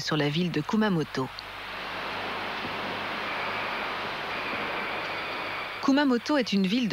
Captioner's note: applause